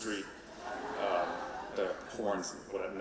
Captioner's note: audience laughing